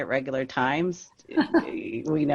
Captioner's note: laughing